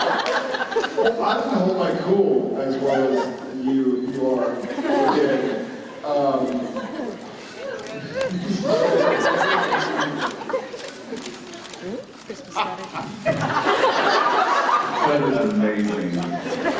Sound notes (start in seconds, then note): 12.4 audience laughs; 12.5 Jared laughs